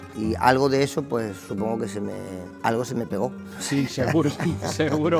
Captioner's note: laughs